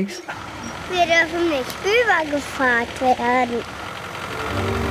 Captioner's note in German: Kindersprache